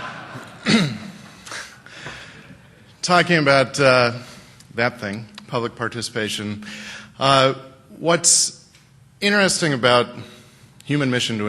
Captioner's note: laughter